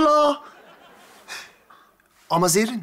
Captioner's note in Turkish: Gülme efekti